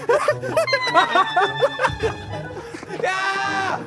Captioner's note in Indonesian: Tertawa, cekikikan